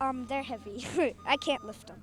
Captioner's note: laughing